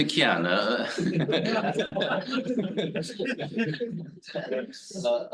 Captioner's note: all laughing